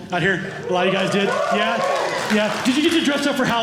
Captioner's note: cheers